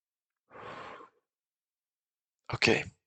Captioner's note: exhale